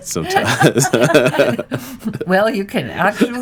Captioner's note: laughter